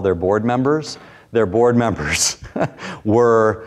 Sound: chuckles

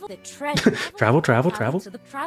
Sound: laughter

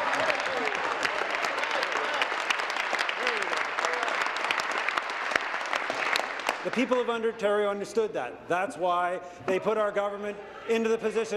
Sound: applause

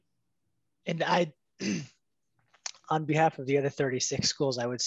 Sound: cough

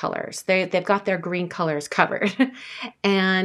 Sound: laughing

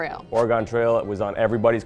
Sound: air whooshes

